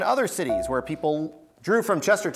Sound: buzzer beeps

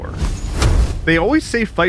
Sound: door slams

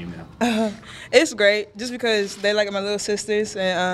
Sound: laughs

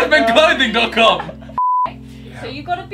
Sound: high pitched tine

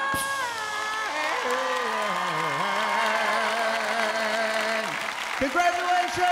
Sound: applause

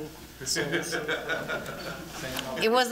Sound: laughter

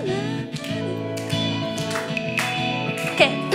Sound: murmuring

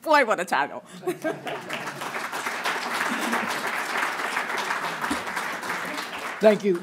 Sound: applause

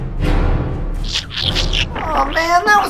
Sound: banana squishing

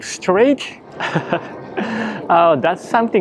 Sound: laughs

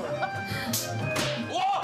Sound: slap!

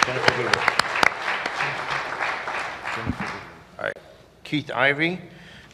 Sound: applause

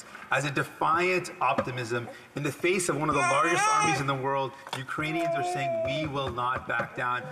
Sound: speaking Alternate Language

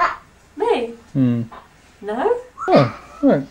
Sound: dad grunts positively

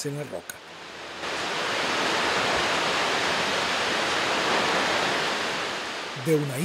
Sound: water falls

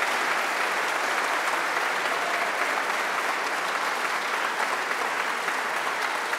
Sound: audience applause continues

